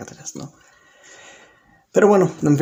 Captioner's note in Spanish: Silencio